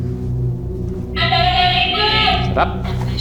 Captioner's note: Boo Buddy indistinctly chattering